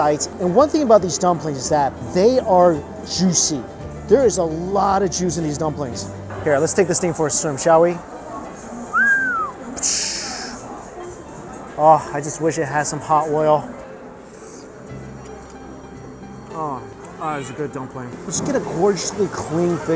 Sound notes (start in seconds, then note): 8.8 whistles; 8.9 makes splashing sound